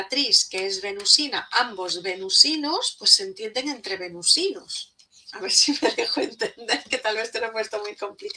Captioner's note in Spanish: risas